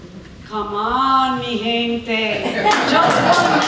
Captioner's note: speaking spanish